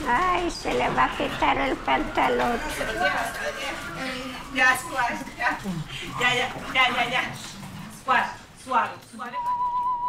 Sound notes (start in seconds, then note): 0.5 speaking in foreign language